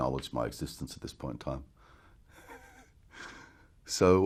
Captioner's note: chuckles